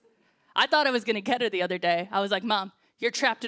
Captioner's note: none